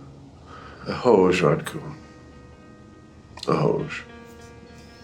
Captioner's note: James speaking in Czech